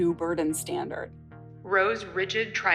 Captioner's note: soundbite of archived recording